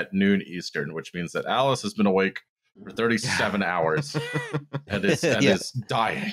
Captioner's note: laughter